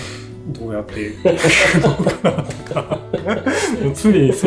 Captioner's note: laughs